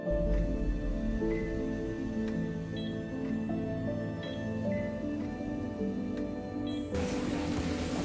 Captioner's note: heart monitor beeps